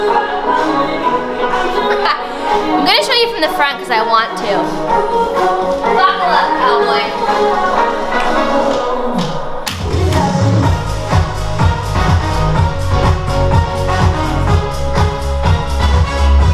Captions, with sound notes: (laughs) I'm gonna show you from the front cause I want to Buckle up cowboy (upbeat music)